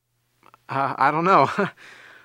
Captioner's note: chuckles